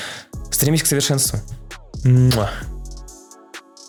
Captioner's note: kiss